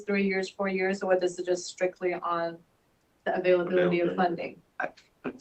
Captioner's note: laughs